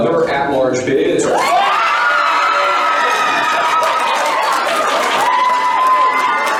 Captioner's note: crowd screaming and cheering